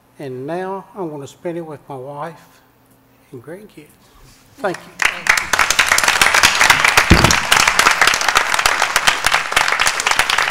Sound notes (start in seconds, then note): 4.6 applause